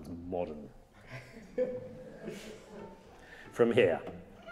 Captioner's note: audience laughing